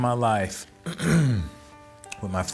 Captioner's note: clears throat